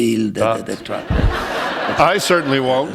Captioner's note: laughter